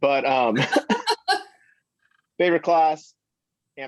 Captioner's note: laughs